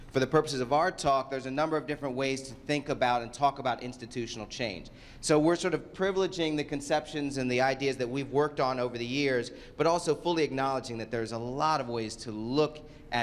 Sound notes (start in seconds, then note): none